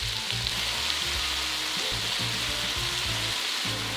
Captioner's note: grating